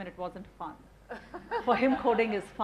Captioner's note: laughing